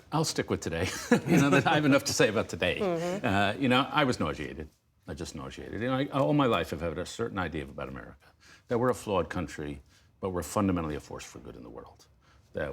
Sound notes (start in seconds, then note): 0.8 laughter